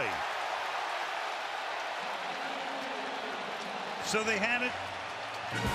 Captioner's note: cheering